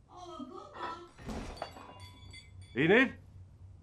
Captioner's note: loud crash; glass breaking